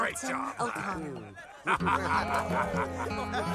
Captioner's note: they laugh